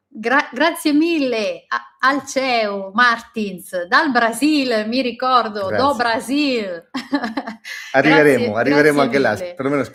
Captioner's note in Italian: risate